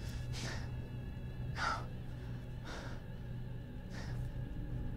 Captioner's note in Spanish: Respira pesadamente